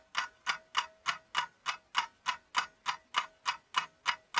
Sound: clock winding up

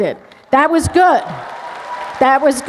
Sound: cheers, applause

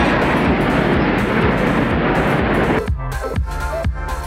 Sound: jet engines whooshing; upbeat music

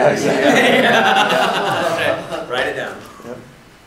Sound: attendees laughing

